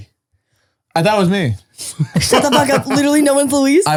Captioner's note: laughs